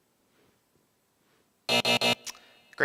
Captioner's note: buzzer buzzing